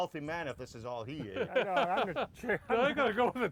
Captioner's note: laughter